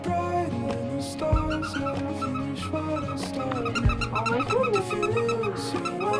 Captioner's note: toy squeaking